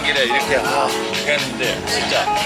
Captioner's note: ahh